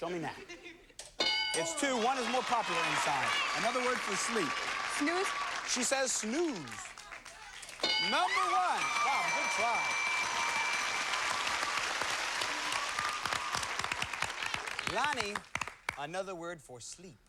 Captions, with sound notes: Show me nap. It's two. One is more popular, Inson. Another word for sleep. Snooze. She says snooze. Number one! Bob, good try. [applause] Lani... Another word for sleep.